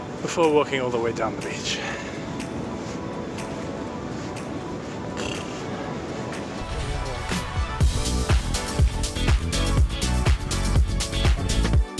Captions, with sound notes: before walking all the way down the beach. (blows raspberry) (energetic music)